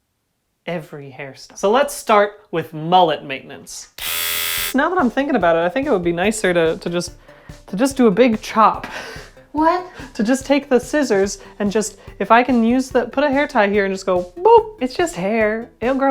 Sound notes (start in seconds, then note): 9.4 nervous